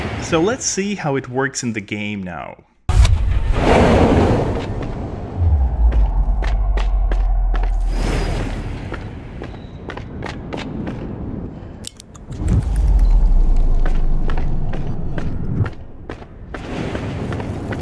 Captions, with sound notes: Let's see how it works in the game now. [SEQUENCE OF GAMEPLAY SOUND EFFECTS]